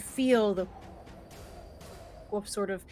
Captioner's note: air whooshing faintly